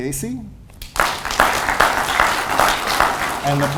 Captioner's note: audience applauds